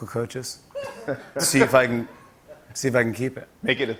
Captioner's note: light laughter